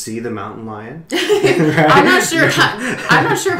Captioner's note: laughter